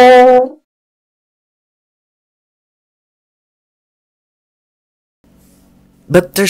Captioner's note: silence